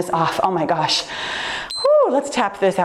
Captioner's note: timer beeps